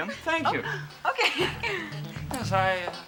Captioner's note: light, funky music; chuckles